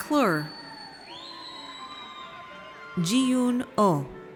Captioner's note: audience cheers